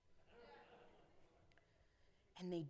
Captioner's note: audience chuckling